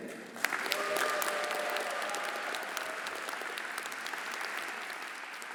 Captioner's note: everyone applauding and cheering